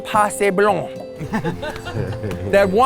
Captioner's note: everyone chuckles